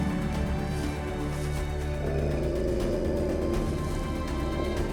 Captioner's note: wolf growls